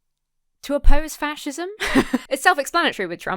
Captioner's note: laughs